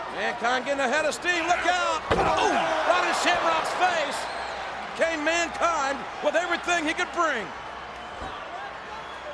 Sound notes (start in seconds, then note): 2.0 body thuds